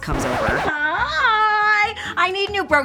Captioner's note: record scratch